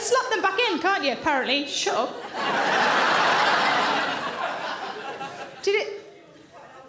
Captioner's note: audience laughing